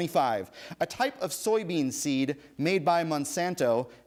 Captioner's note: none